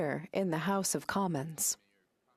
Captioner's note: speaking French